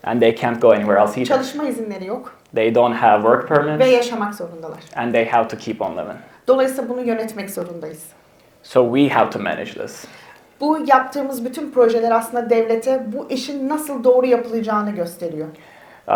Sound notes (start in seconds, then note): 1.5 speaks in Turkish; 4.2 speaks in Turkish; 6.7 speaks in Turkish; 10.8 speaks in Turkish